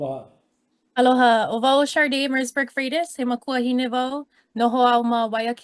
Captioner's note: speaking in Hawaiian